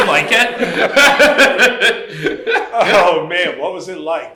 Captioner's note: laughter